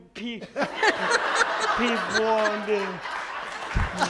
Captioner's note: audience laughs